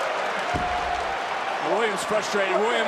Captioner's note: crowd cheers